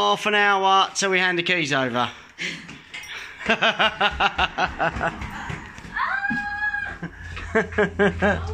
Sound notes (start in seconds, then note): 3.5 laughs incredulously